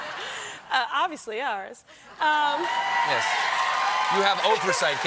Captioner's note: cheers and applause